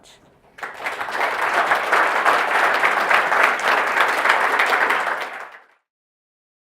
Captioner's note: applause